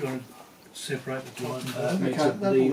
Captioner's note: chatter